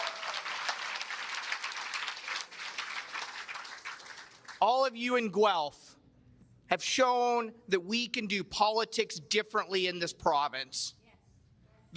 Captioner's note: cheers and applause